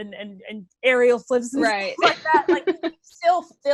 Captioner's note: laughs